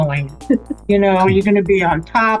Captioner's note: chuckles